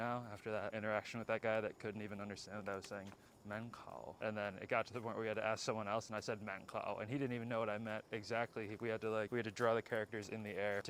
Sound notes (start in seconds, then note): 3.5 Mandarin